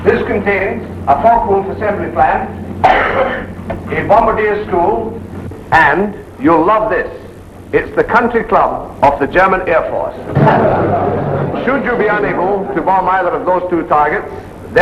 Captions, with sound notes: This contains a Focke-Wulf assembly plant, a bombardier school, and you'll love this, it's the country club of the German Air Force. (men laughing) Should you be unable to bomb either of those two targets,